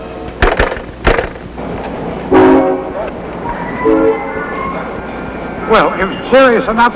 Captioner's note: train whistle blowing